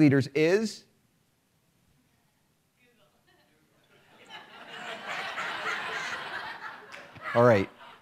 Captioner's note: laughter